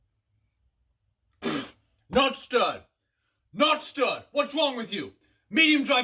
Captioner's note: spits out